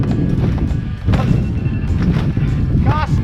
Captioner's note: alarm rings